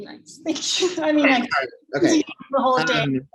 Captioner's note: chuckles